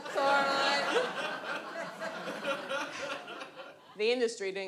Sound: audience laughs

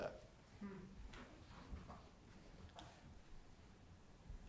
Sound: chatter

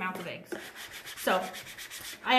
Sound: brushing

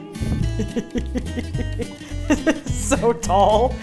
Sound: laughing

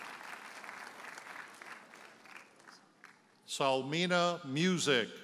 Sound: audience applauds

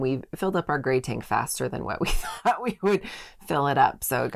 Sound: laughing

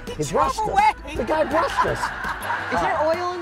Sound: crowd laughing

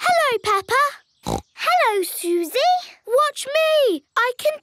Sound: snorts

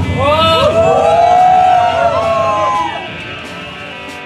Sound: crowd cheering; upbeat music

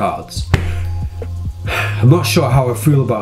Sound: sighs

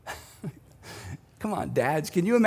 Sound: laughing

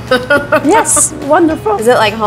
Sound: laughing

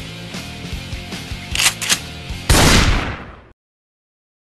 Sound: shotgun shot

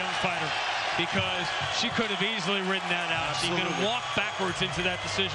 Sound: cheering

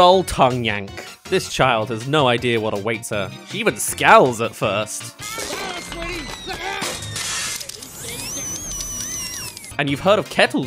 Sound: ah! *Machine whirs

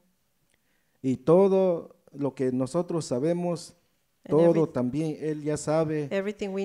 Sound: speaks in foreign language

